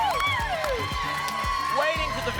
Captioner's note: applause and cheering cont